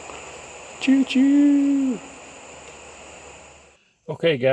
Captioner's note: humming